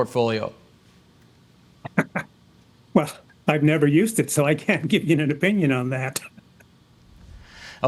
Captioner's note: laughs